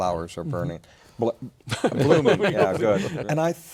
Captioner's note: background laughter